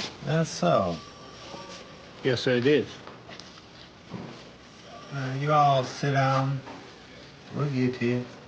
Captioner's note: telephone rings